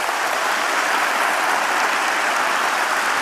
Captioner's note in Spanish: Aplausos